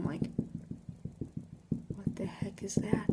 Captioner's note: tapping